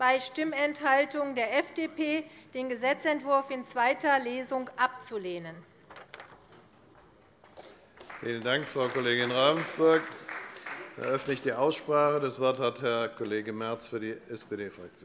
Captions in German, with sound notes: der FDP, den Gesetzentwurf in zweiter Lesung abzulehnen. [Beifall bei Abgeordneten der CDU] Frau Kollegin Ravensburg, vielen Dank. - Ich eröffne die Aussprache. Das Wort erhält Herr Kollege Merz für die SPD-Fraktion.